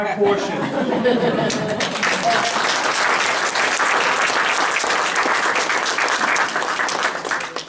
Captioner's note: applause